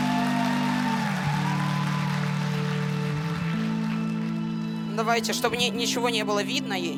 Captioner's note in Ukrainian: оплески